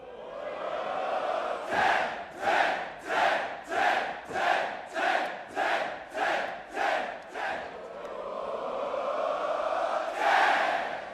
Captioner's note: fans chanting